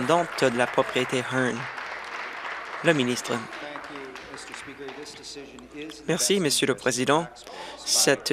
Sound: applause

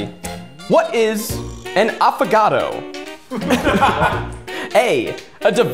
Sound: all laughing

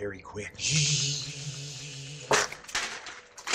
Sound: shzzzshzzzzshzzzz; tearing paper

